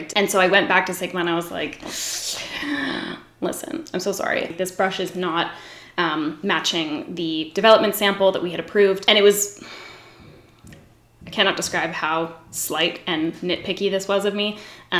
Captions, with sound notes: And so I went back to Sigma and I was like, (sucks teeth) listen, I'm so sorry. This brush is not matching the development sample that we had approved. And it was (sighs), I cannot describe how slight and nitpicky this was of me.